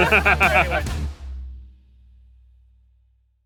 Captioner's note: laughs